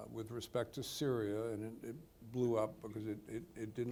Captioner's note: none